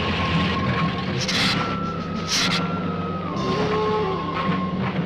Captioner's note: lizard hissing